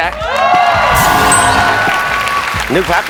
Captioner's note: clap